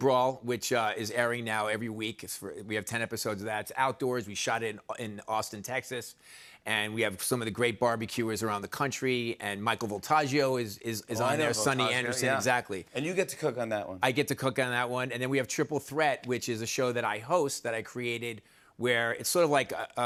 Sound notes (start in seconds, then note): none